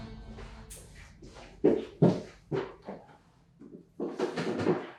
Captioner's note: footsteps thumping